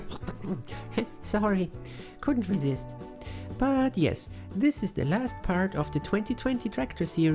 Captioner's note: cough